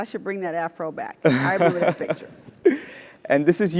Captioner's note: laugh